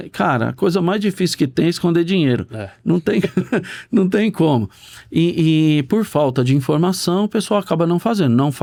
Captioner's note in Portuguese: risadas